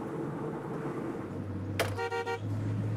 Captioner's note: honks horn